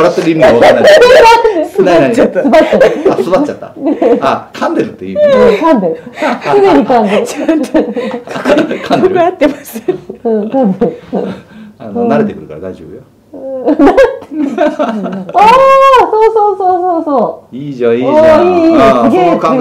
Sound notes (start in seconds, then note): 6.0 laughs